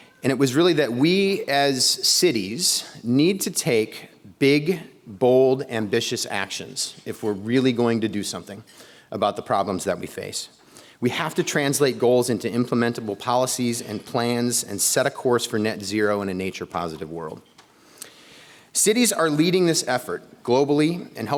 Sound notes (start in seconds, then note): none